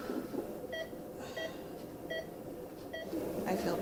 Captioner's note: hospital monitor beeping